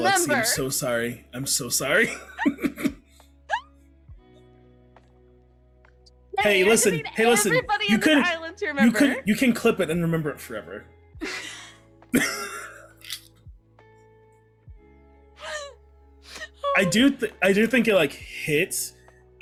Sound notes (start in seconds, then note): 15.0 laugh